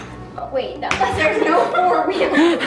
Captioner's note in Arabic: تضحك كل الفتيات